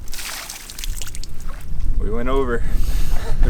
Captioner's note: water pouring